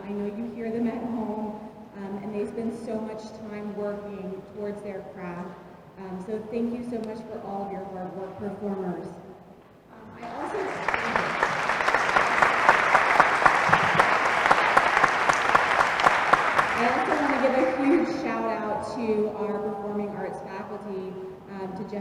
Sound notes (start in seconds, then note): 10.2 applause